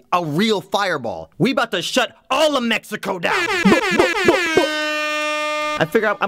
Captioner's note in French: bruits de klaxon d'air